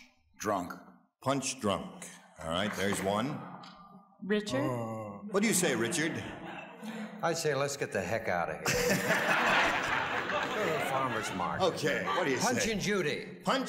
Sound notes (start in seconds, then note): 8.6 audience laughs